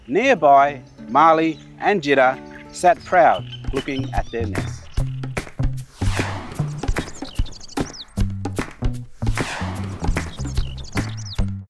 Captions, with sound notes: Nearby, Maali and Djidar sat proud, looking at their nests. (gentle upbeat music) (birds chirping)